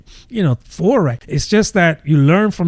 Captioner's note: uh